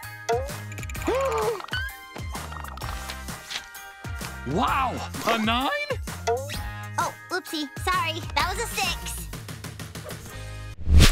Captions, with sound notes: [groaning] Wow! A nine? Oh, oopsie, sorry. That was a six.